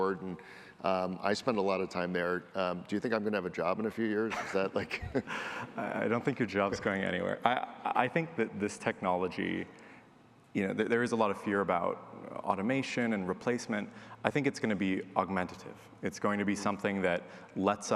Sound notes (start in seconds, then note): 4.2 chuckles